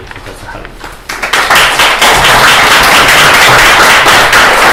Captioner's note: applause